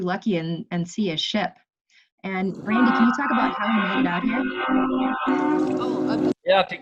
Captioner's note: sound of the ship's horn